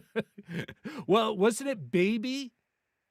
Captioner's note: laughing